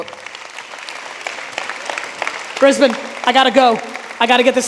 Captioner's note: audience applauding